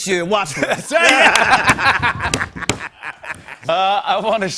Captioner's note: laughter